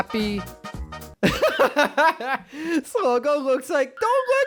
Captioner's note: laughs